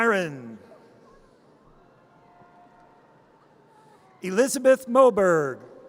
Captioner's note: audience cheers